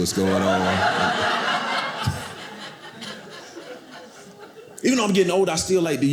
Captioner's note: audience laughing